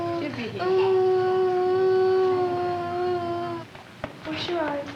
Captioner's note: moaning